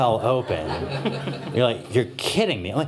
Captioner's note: laughter